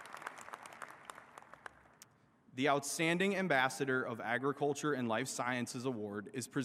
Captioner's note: applause